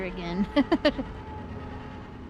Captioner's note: laughs